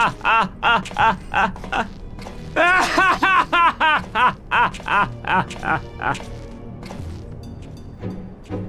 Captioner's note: laughs